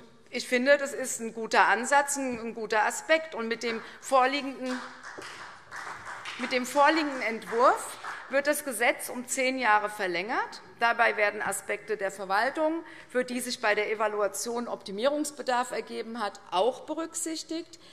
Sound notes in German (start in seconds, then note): 4.6 Vereinzelter Beifall CDU und BÜNDNIS 90/DIE GRÜNEN